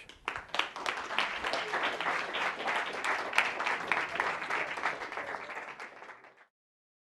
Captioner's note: applause